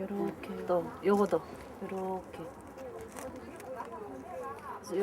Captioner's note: speaking in Korean